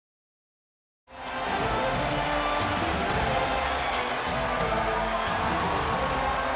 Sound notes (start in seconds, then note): 1.1 audience cheering; 1.1 upbeat music